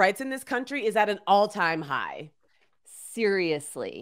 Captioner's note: none